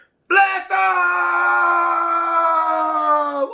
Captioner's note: screaming